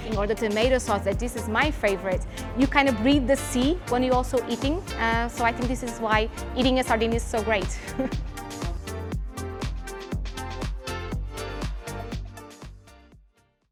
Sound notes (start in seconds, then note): 7.8 chuckling; 8.1 lively music